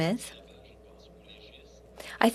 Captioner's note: speaking French